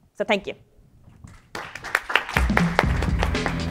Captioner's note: applause